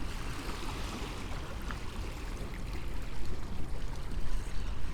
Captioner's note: water crashing gently